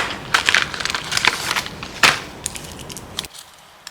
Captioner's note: rustle rustle